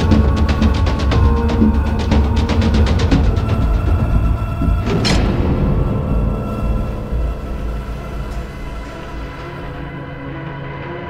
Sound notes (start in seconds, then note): 4.7 door slamming; 7.8 dramatic music